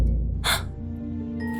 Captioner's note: gasp